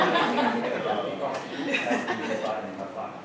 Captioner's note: laughter